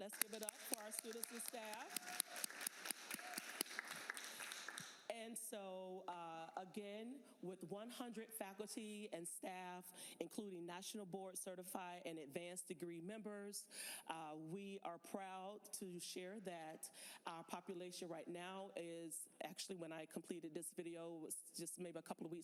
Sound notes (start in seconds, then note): 5.0 applause